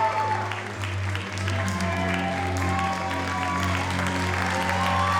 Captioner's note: audience cheers and applauds